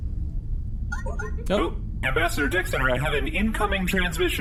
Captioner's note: weeble-weep sound of an incoming call